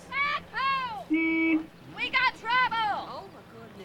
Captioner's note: crowd assents